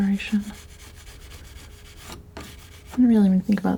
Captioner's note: scratching